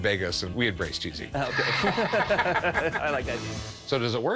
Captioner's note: laughter